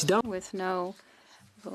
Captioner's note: speaking French